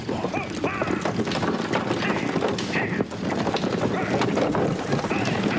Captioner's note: screams